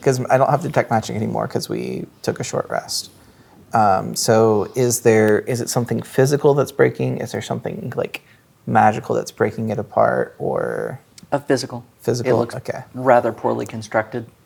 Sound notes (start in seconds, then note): none